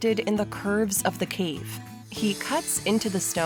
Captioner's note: sawing